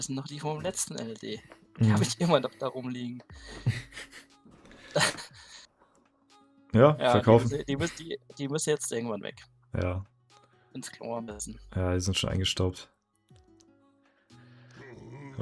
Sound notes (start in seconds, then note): 4.8 laughter